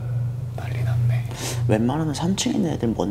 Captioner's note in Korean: 속삭이는